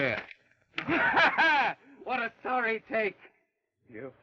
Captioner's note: laughs